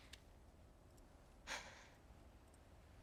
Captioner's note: sigh